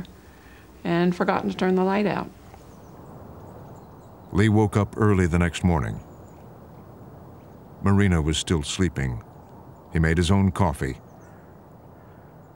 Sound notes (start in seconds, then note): none